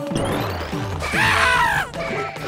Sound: Mario screams

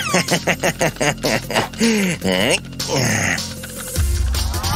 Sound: laugh unpleasantly

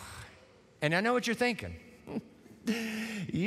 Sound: chuckles

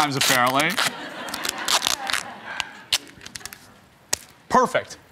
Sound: audience laughs

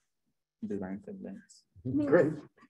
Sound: murmurs

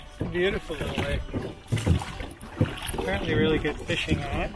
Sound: none

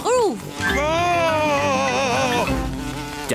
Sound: screams

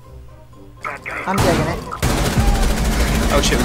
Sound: gunfire

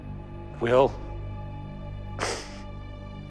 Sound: inhales

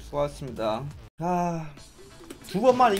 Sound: korean sigh

